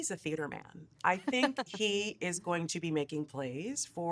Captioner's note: laughing